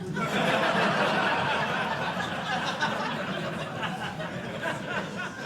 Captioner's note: laughter